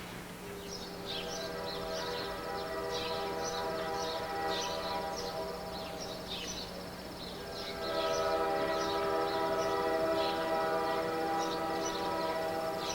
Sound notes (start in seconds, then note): 1.6 chirping of birds; 7.4 tooting of train whistle